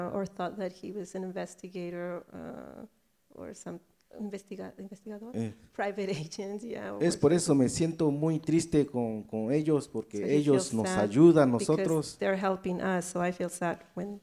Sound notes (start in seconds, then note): 7.0 speaks in foreign language